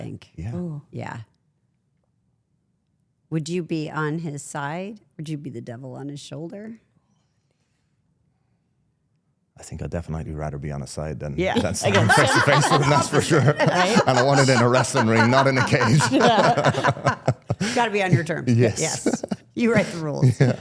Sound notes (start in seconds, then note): 13.3 laughing; 16.9 everyone laughing